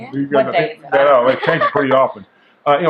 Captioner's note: laughing